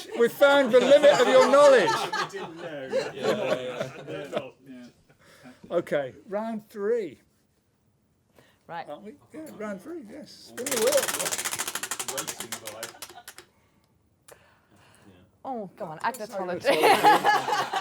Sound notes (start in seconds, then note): 10.6 ratcheting